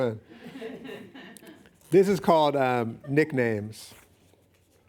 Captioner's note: laughing